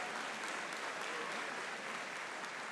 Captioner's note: applause